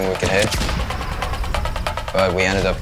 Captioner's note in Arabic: أزيز الهواء